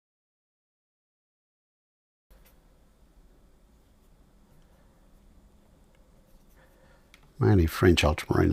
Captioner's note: silence